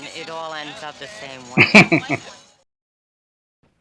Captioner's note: chuckling